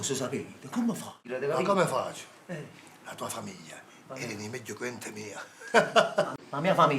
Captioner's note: laughs